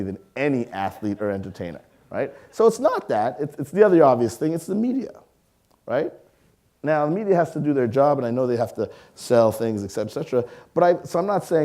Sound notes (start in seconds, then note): 1.9 audience laughing